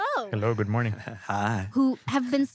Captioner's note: laughs